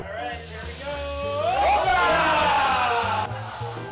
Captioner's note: sizzling